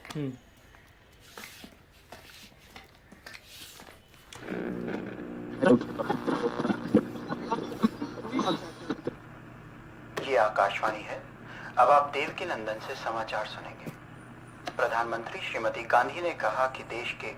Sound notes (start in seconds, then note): 9.5 radio